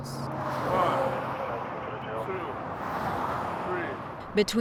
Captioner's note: traffic roaring